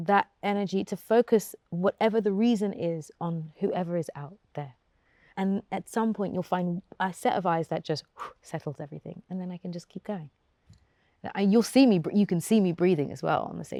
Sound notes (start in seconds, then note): 7.4 exhales